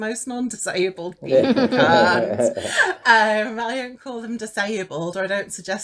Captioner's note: laughs